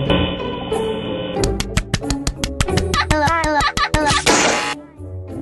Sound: spamming The Play Sound Button

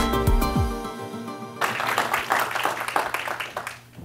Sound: applause

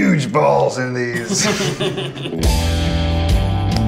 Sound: all chuckling; upbeat music

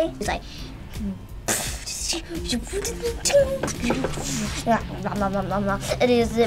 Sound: makes action noises

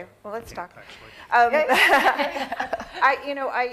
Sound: laughter

